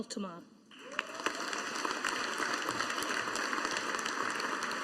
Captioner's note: audience applauding